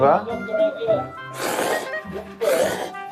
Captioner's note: Menyeruput mie